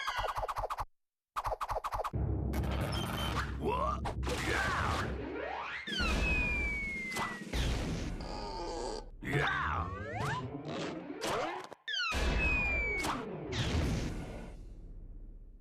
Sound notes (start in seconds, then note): 3.7 screaming; 6.9 thudding; 8.2 creaking; 8.2 screaming; 13.4 thudding